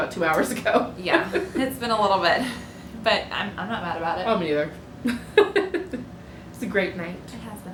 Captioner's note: laughter